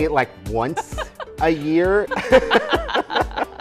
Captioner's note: laughter